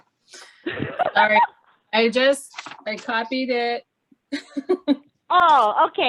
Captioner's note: laughing; laughing